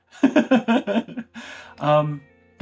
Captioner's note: laughs